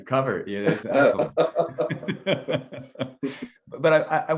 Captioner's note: both laugh